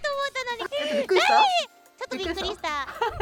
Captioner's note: scream